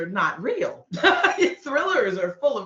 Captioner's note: laughing